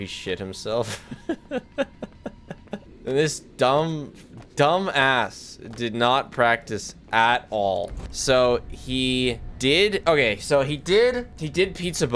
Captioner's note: laughs